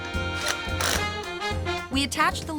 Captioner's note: screwing